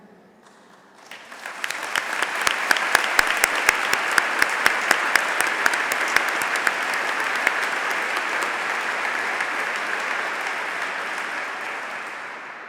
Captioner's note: applause